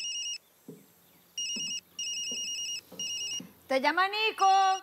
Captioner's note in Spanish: Suena el celular